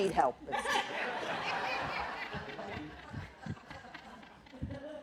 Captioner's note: laughter